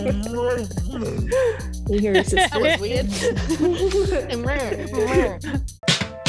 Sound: laugh

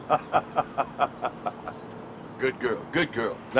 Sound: Dave laughing

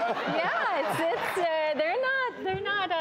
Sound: audience laughs

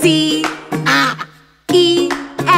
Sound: duck quacks

